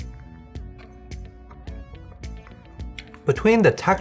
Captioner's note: chewing